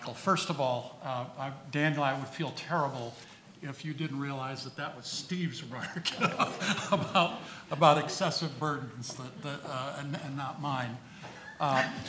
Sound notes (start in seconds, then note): 5.9 laughs